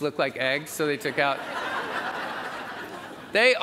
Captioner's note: audience laughs